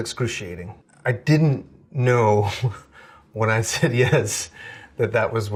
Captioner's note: chuckling